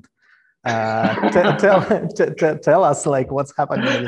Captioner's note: laughing